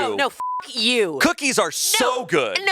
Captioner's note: beep